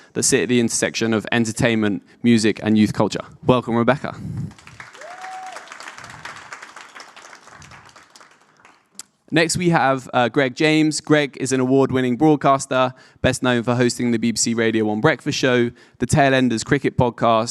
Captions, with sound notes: that sit at the intersection of entertainment, music and youth culture. Welcome Rebecca. (audience applauding) Next we have Greg James. Greg is an award-winning broadcaster, best known for hosting the BBC Radio One Breakfast Show, the Tail Enders Cricket Podcast,